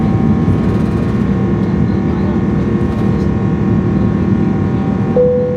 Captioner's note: engines continue roaring; plane notification beeps